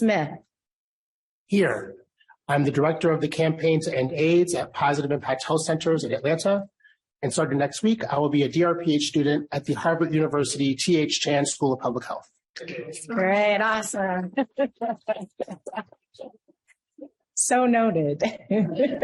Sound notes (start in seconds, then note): 14.2 laughs; 18.2 laughter